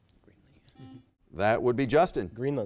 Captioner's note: buzzer beeps